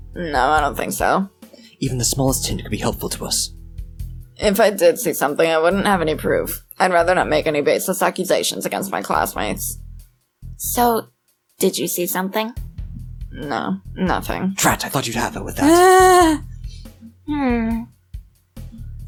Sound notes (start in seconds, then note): 15.5 laughs